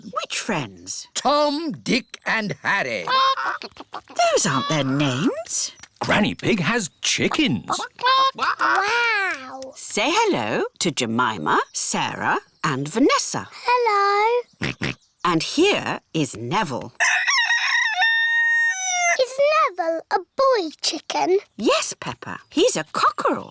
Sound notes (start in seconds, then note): 14.6 george oinks; 17.0 rooster crows